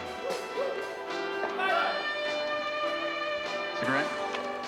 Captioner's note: shouting